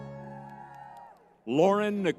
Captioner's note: crowd cheering